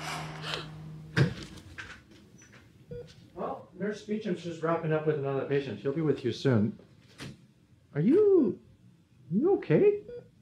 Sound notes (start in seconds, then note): 0.2 gasp; 1.1 door opens